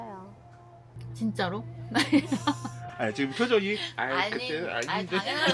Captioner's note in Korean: 웃음